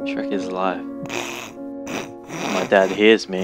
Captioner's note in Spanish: nasal